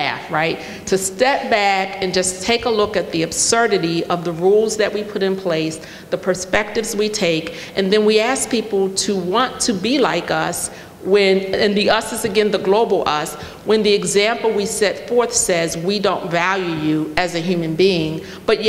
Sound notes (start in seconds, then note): none